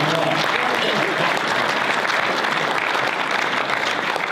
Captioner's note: audience applause